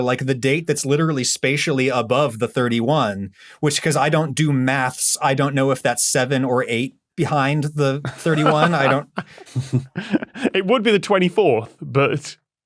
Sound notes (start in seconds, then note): 8.0 laughs; 8.0 snickers